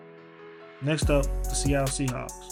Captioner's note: voiceover